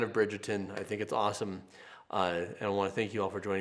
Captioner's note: hands clapping